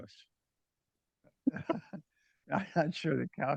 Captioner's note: laugh